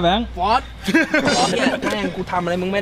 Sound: laughs

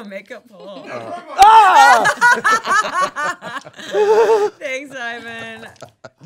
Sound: laughing; screaming

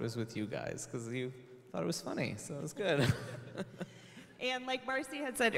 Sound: laughs

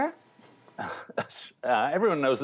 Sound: laughter

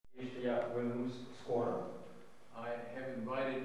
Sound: non-english speech

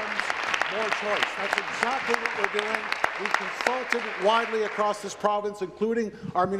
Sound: applause

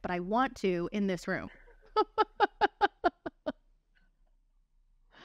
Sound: laughter

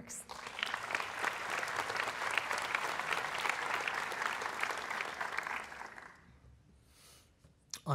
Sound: applause

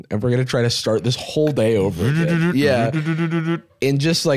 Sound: imitates car starting

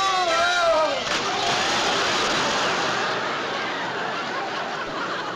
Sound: splash

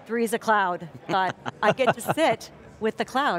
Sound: everyone chuckles

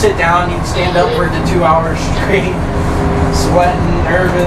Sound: laughs

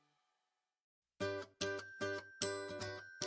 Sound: none

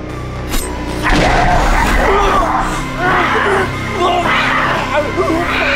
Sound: cat screeching; landlord grunting

